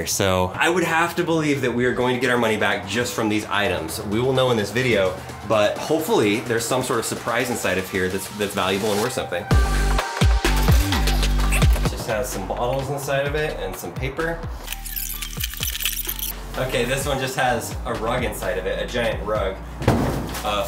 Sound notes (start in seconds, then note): 9.7 upbeat music; 14.6 video squelches